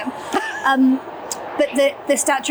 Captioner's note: chuckles